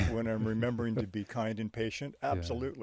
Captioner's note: chuckles